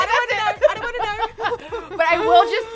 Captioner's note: laughs